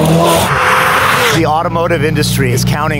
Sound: engine Accelerating

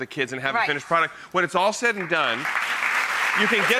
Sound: audience applauds

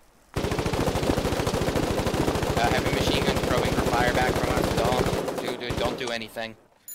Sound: many machineguns firing

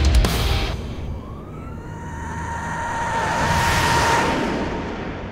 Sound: yeaaaaaaaAAAAAAAAAHHHHHHHH

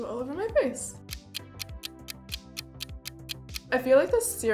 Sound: clock ticking

